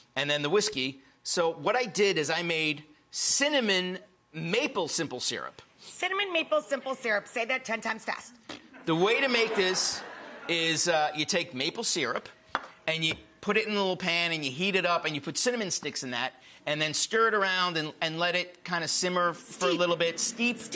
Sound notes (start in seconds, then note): 8.7 audience laughs